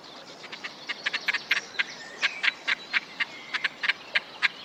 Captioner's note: cackling